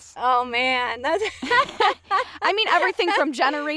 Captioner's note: laughing